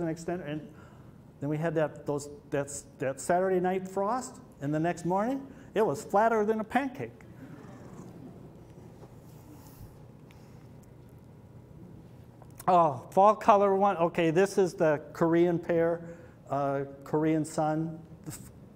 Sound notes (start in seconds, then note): 7.2 laughter